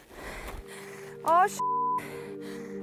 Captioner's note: beep